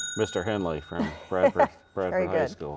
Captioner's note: bell dings